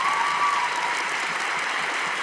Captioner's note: cheers and applause